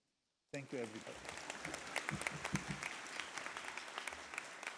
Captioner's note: audience claps